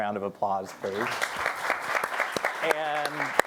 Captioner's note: audience applauding